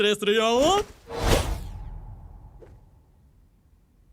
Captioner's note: swoosh!